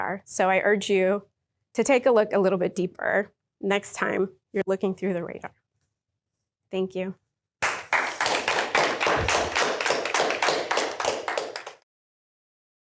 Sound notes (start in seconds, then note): 7.6 applause